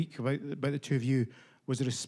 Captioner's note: none